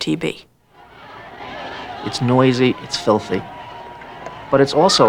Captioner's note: people Chattering